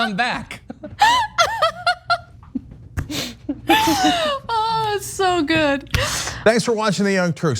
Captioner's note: laugh